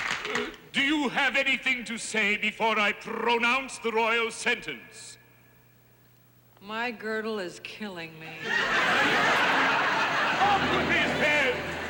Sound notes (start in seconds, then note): 8.3 laughter